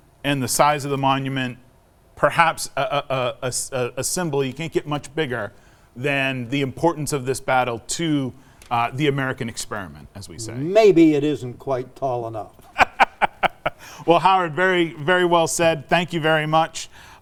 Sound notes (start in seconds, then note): 12.6 laughing